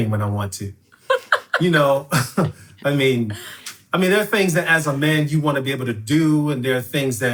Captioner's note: sighs